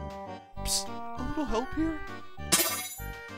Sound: whispering

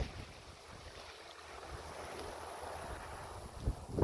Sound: a gentle hissing sound

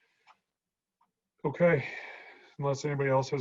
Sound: sighing

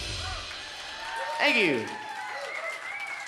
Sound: cheers and applause

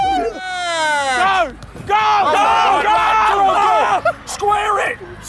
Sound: audience cheering

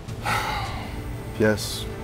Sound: Ricky sighs

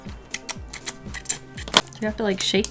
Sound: mouth kissing

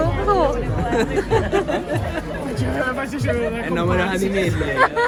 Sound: laughs

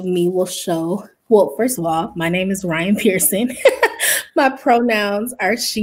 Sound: laughs

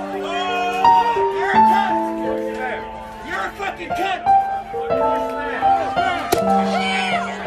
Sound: more shouting

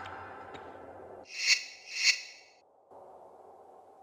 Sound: menu sounds

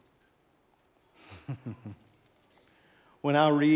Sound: chuckles

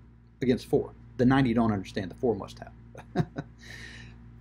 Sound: laughs

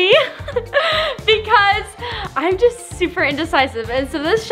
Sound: laughs

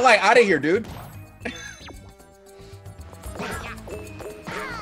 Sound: laugh

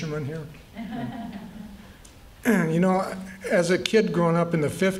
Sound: laughter

